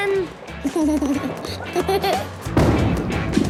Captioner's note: giggles